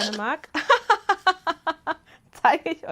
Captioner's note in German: Gelächter